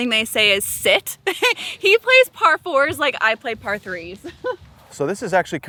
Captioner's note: laughs